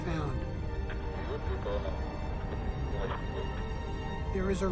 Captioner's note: man speaking in foreign language